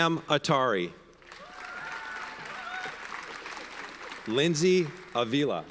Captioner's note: audience cheers and applauds